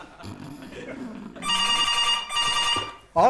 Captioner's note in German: Schnarchen; Telefon klingelt